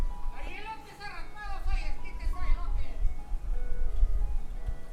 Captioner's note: background talk